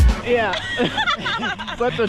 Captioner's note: laughter